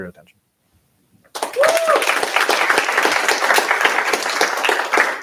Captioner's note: applause